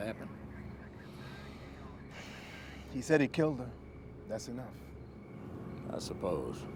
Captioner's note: breathes heavily